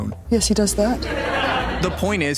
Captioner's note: laughing